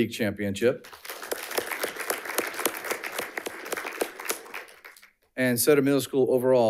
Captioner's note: audience applauding